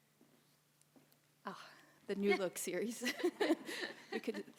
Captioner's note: audience member 3 & laugh